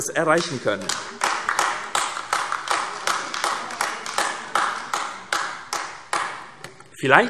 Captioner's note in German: Beifall AfD